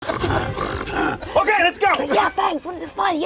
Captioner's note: snoring aggressively